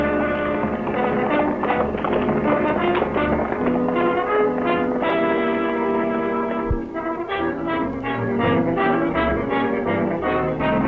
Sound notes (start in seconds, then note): 0.0 hooves clatter; 0.0 adventurous music